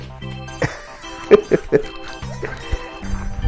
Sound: laughs

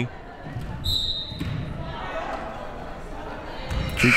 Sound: whistle

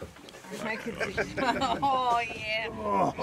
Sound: laughing

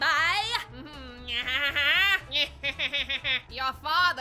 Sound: menacing laugh

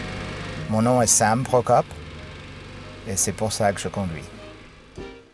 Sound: speaking in foreign language

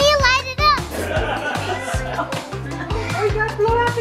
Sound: laughing

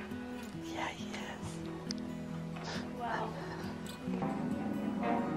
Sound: whispers

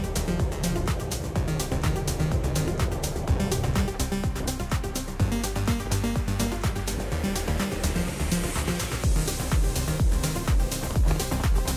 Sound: wind blowing

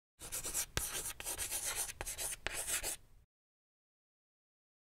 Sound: scratching on chalkboard

